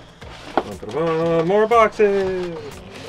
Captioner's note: hums